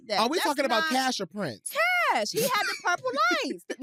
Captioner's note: laughs